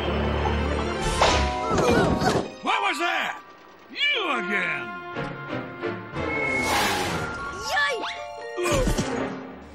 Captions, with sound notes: WHAT WAS THAT? YOU AGAIN! [ TIRES SCREECH ] YIKE! OOF!